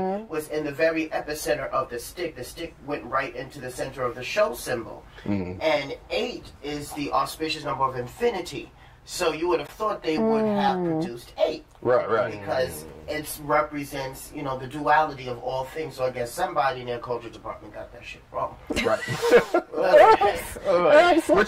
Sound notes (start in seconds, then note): 5.2 sounds of agreement; 11.9 sounds of agreement; 18.7 laughter